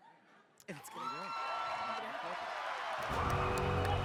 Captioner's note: cheers; ominous music